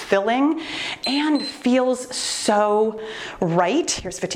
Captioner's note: timer beeps